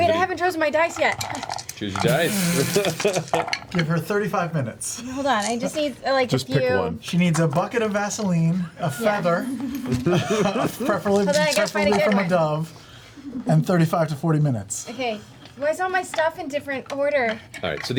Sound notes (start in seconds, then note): 2.6 chuckles; 3.5 snorts